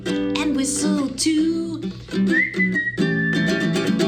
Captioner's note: whistling